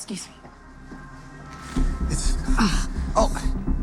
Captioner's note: groans